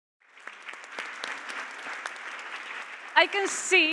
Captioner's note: Aplodit